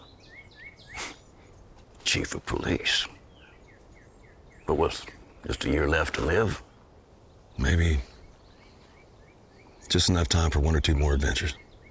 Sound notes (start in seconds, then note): 1.3 scoffs